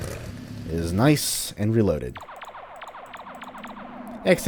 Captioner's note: lazer Gun pew pews